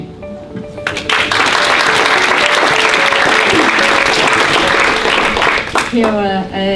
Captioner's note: audience clapping, music plays